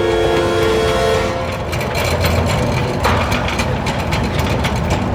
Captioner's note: cart rattling